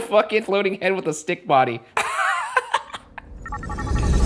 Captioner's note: laughs